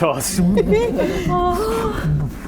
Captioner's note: swoosh